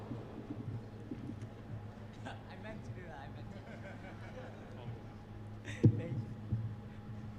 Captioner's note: laughter